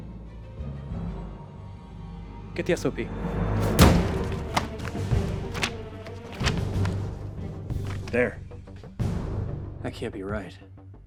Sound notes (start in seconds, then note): 3.6 pages rustling; 4.4 dramatic music continues